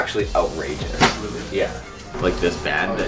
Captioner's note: pat